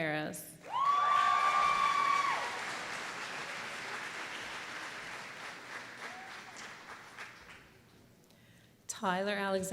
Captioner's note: applause